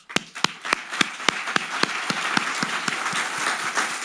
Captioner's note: all applauding